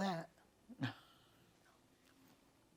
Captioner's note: laughing